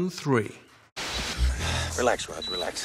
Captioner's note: men breathing audibly